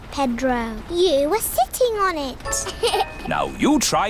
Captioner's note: laughs